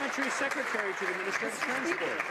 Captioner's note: some Applause